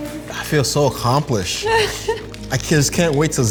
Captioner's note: laughs